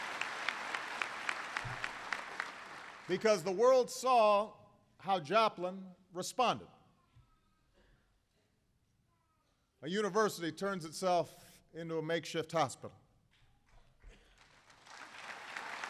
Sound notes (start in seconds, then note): 12.4 applause